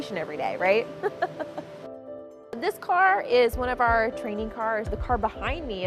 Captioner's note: laughter